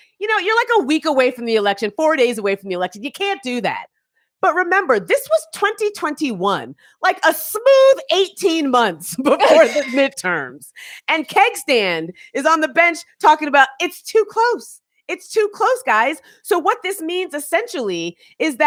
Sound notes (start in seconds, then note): 9.4 chuckling